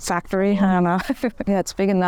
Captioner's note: chuckles